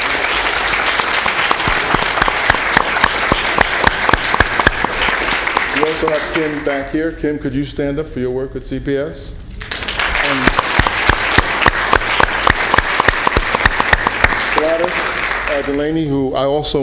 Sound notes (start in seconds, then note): 9.6 applause